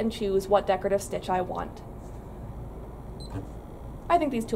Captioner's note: beeping noise